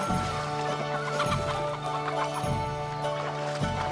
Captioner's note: squawking